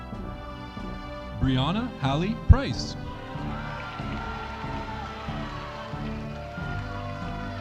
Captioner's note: audience applauding